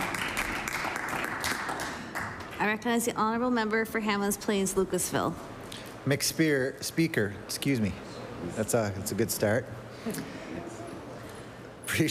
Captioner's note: applause